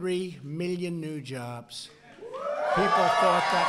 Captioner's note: applause